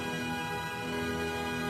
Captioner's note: none